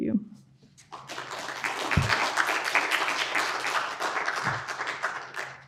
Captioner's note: audience applauding